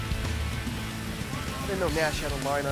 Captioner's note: none